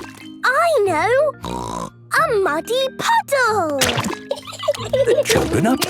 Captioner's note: laughing